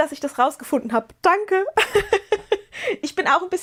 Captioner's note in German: gelächter